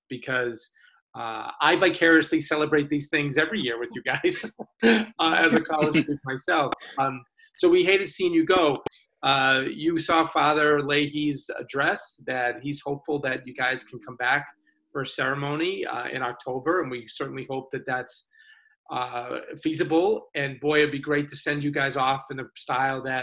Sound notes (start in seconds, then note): 3.4 laughs